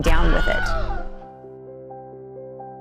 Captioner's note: person screams; hopeful music